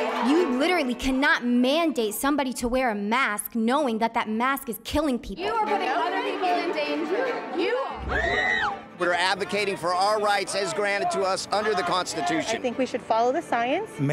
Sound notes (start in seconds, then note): 7.9 screaming